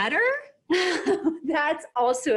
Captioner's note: laughing